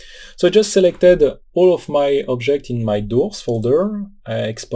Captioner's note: Doors